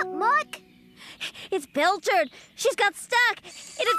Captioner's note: panting